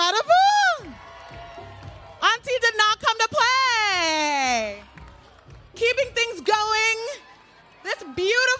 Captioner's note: applause